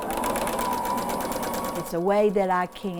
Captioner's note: sewing machine running